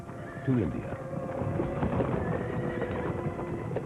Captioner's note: horse Whinnying